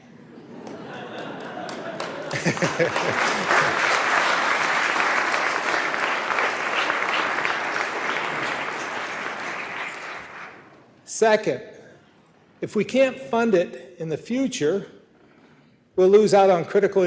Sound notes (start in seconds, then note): 4.0 laughter; 5.0 applause